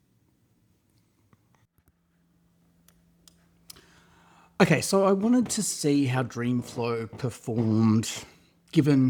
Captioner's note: clicks tongue